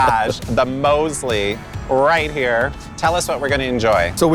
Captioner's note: chuckles